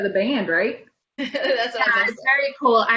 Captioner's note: laughter